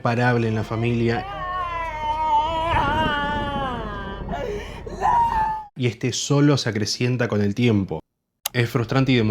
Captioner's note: heartbreaking scream